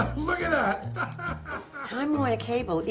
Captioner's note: laughs